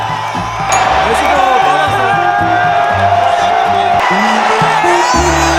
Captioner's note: another huge roar from the Mexican crowd